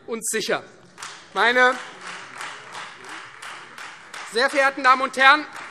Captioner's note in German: Beifall Freie Demokraten